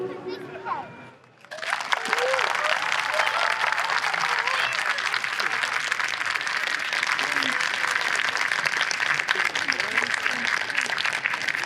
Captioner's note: applause